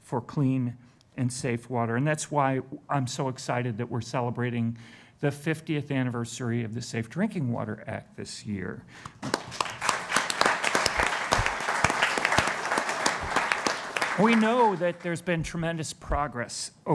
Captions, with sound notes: for clean and safe water. And that's why I'm so excited that we're celebrating the 50th anniversary of the Safe Drinking Water Act this year. (Applause) We know that there's been tremendous progress